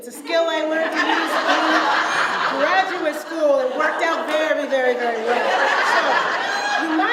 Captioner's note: audience laughs